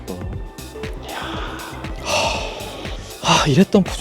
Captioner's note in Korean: 감탄